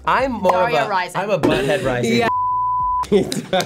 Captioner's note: beep